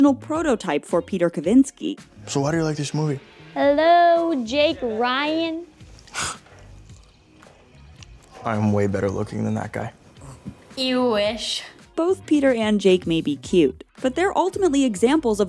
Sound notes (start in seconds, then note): 5.7 scoffs